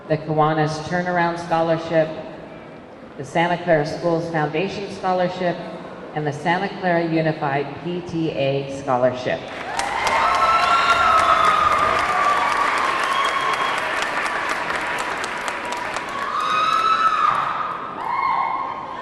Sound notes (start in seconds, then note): 9.5 audience clapping; 9.6 audience cheering